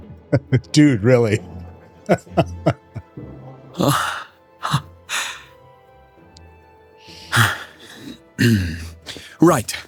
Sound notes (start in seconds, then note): 2.0 laughter